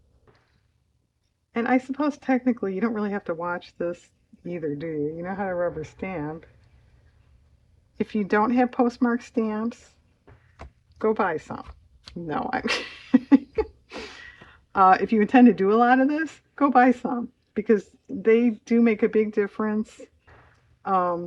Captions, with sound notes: and I suppose technically you don't really have to watch this either do you? you know how to rubber stamp if you don't have postmark stamps, go buy some (laughs) no, I'm kidding if you intend to do a lot of this, go buy some because they do make a big difference